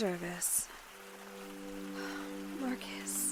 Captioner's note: sighs